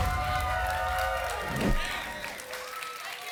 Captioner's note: whoosh; applause and cheering cont